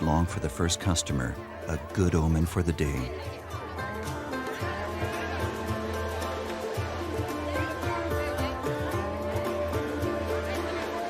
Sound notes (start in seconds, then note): 3.3 people chanting; 3.3 upbeat music